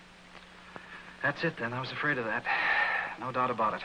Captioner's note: sighs